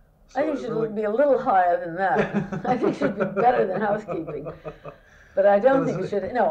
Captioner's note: laughter